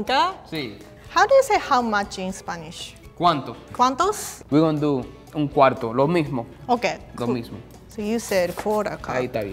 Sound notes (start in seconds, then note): 3.5 speaking in foreign language